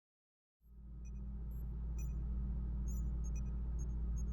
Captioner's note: ambient beeping noises